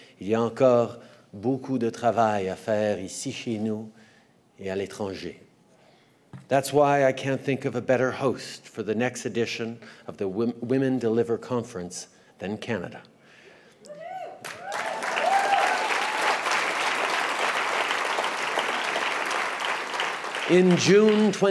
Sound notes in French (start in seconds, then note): 13.9 Acclamations et applaudissements